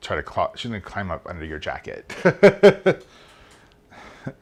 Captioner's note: laughs